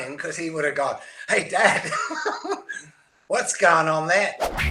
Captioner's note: chuckles